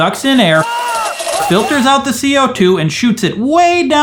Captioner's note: screaming